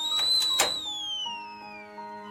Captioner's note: click